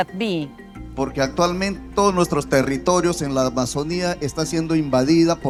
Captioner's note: speaking in Spanish